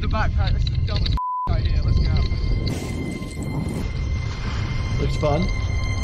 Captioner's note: beep